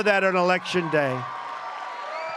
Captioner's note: applause